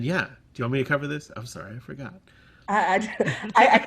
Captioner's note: laughter